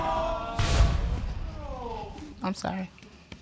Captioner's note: audience groans